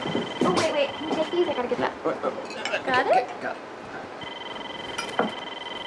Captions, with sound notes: Oh, wait, wait, can you take these? I've got to get that. Wait, wait. Got it? Got it. (ringing continues)